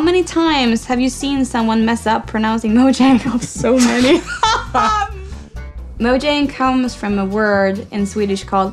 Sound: laughs

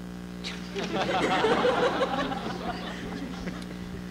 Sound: laughter

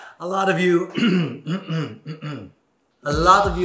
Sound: clears throat

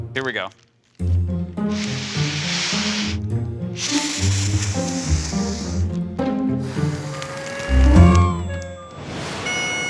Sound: blows

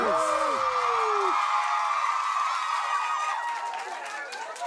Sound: cheering

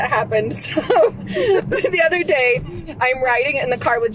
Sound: laughs

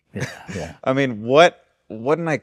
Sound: chuckles

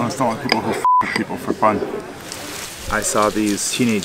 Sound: beep

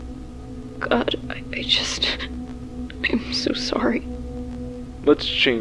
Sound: voice catches

